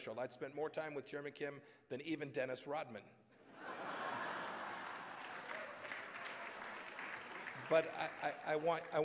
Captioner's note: laughter and applause